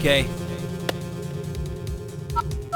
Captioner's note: click; dialing